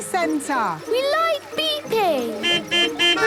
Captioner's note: horns beeping